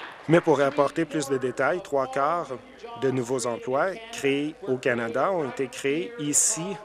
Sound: applause

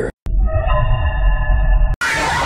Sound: Fnaf 2 Hallway Sound Effect again

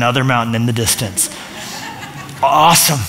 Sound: laughter

